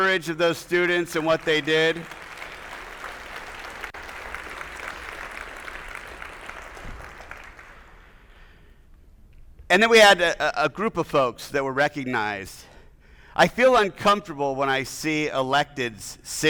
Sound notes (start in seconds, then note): 1.6 attendees applauding